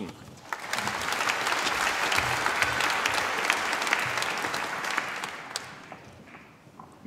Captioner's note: applause